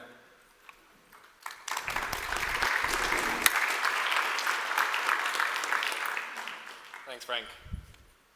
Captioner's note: applause